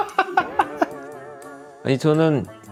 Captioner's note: playful sound effect